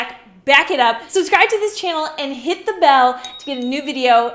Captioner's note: bell chimes